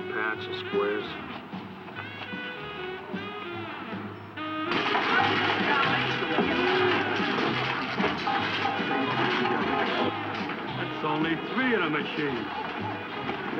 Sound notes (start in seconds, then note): 2.2 uptempo jazz music; 4.3 people murmuring; 4.6 ice clanking